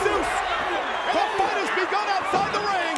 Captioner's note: crowd cheering